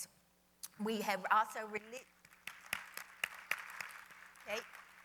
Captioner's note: applause